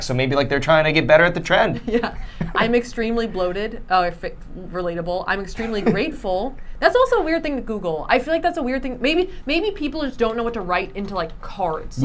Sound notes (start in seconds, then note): 1.7 chuckles; 5.6 laughing